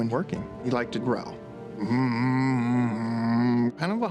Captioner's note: growling